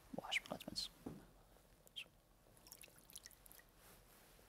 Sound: whispering

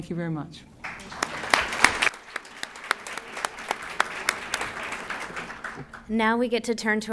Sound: applause

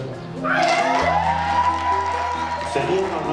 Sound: people cheer and clap hands

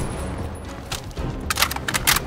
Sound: gunshots

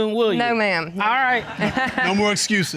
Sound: chuckles

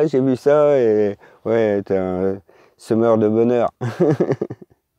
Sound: laughs

